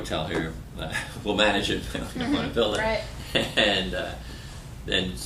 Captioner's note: laughter